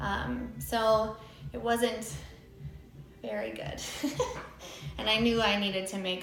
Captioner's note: laughs